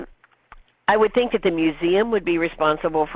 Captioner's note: voiceover